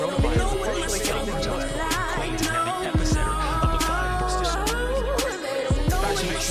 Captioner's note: reporters consecutively chattering